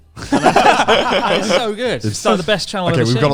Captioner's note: all laughing loudly